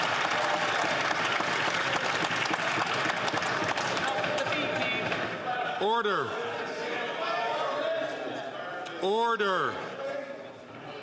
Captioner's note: some Applause